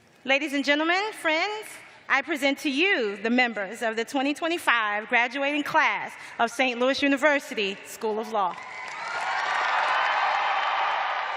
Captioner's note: cheers and applause